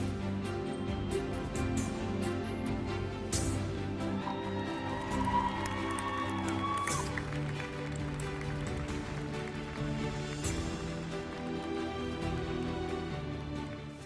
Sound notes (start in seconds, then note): 4.1 audience cheering; 4.7 audience applauding; 8.4 uplifting music continues